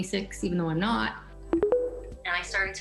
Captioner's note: tones